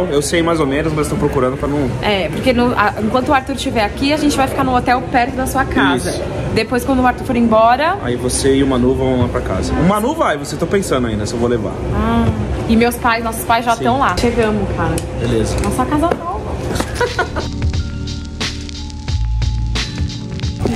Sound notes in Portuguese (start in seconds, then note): 16.6 risos